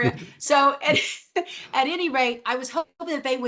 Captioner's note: laughs